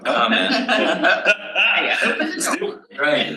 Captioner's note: panel laughs